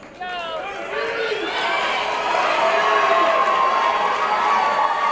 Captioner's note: cheering